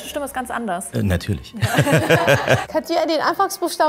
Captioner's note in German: Lachen